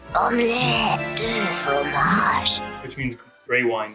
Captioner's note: speaking in a foreign language